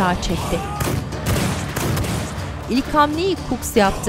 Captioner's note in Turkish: Silah sesleri